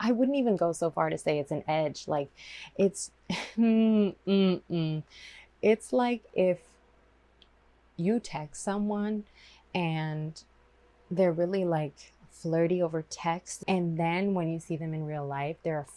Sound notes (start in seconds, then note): 4.1 mmm MMmmm